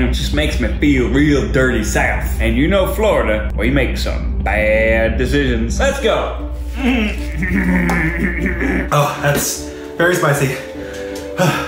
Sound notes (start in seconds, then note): 6.8 gagging